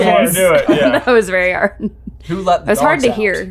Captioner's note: laughing